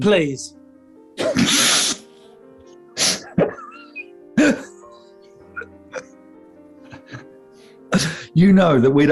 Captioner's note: sniggering